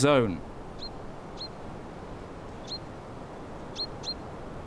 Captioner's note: bird cheeping